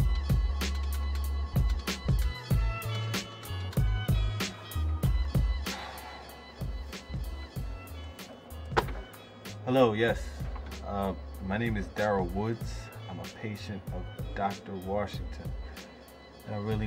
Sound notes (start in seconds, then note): 5.6 sighs